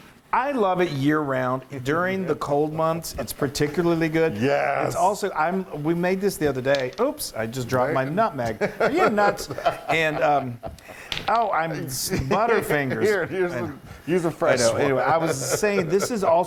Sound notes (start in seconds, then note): 11.2 laugh